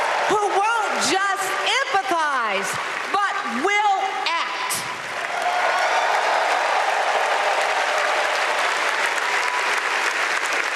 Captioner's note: applause